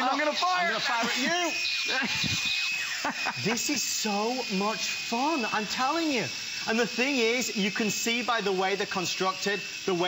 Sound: laughter

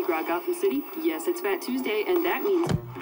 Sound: clicks

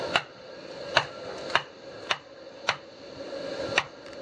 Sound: tapping

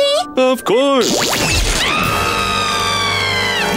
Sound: screaming

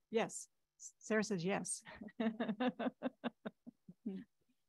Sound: chuckles

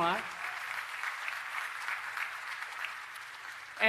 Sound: applause

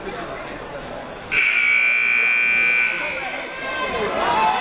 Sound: buzzer ringing; people shouting in the crowd

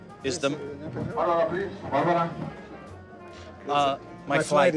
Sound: voice mumbling on PA

